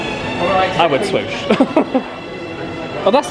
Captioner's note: laughs